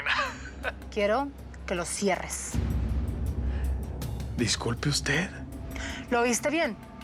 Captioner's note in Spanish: risas